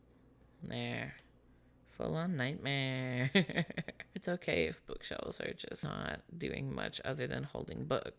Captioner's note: giggles